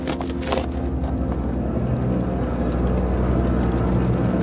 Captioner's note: fire crackling